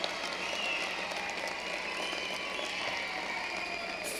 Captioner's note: cheering and applause